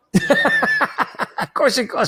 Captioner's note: laughs